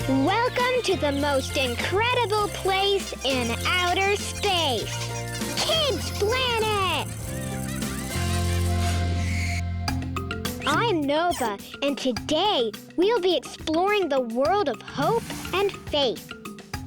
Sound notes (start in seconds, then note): 7.6 children laughing